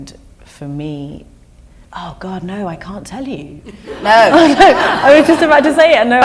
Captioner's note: laughter